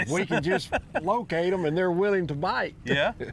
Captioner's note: laughs